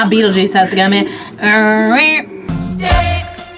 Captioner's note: imitates siren